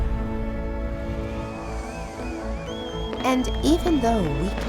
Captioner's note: audience cheering